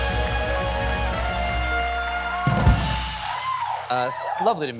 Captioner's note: cheers and applause